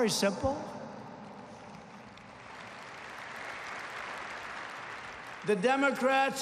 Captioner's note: applause